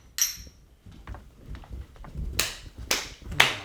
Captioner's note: footsteps